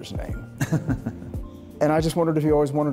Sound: chuckles

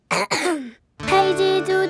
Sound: clears throat

